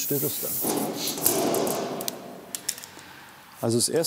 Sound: tinny clanging

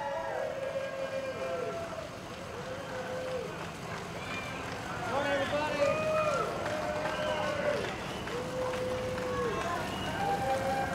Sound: cheers

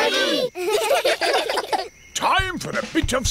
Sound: children giggle

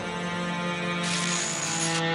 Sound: static

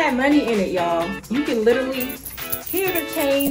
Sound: coins rattling

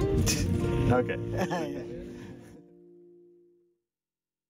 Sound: laughs

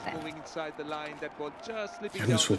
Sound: TV playing

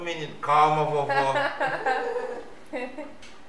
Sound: laughs

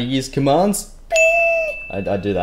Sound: bell sound

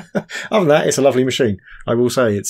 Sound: laughs

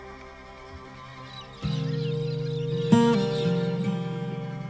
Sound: birds chirping

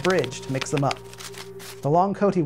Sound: cards shuffling

